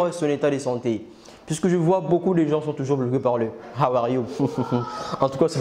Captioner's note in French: rire